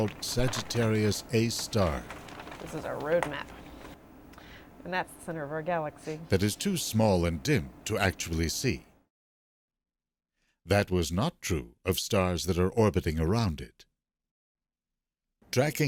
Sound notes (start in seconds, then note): 2.7 voiceover